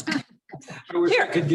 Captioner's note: laughs